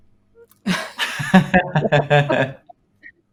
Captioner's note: laughs